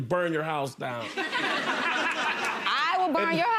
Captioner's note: laughing